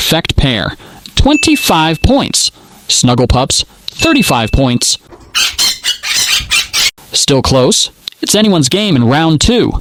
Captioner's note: squawk